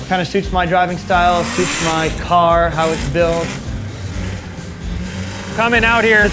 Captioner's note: engine roars